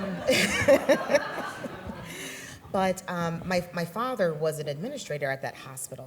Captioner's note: laughs